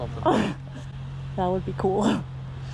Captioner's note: laughing